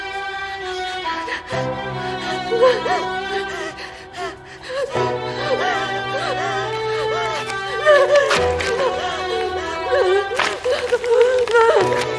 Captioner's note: heavy breathing